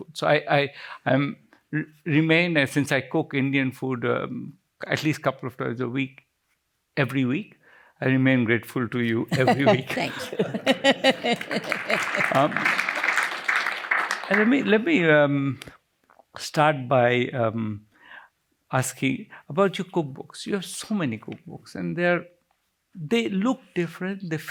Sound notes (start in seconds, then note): 11.3 applause